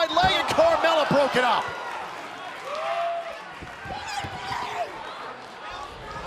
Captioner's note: crowd cheering